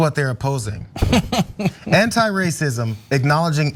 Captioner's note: laugh